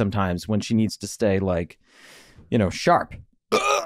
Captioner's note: burps